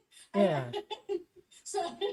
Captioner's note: laughs